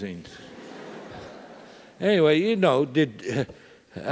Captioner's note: laugh